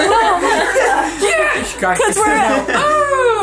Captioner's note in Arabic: الجميع يضحك